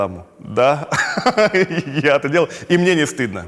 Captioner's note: laughs